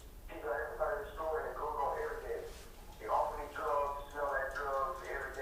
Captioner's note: audio recording being played